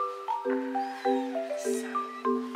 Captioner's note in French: pleurnichement